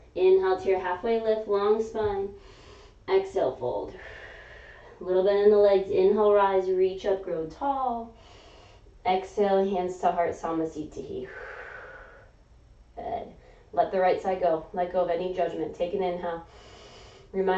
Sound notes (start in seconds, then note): 3.9 exhaling; 7.9 inhaling; 11.2 exhaling